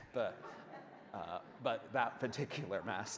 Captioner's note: audience laughs